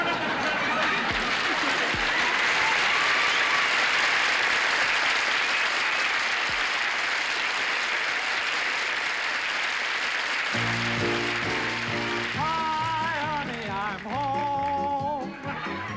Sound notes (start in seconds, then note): 0.8 audience applauding and cheering